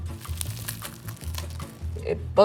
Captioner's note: sandwich crunching